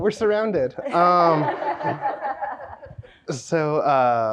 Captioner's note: audience laughing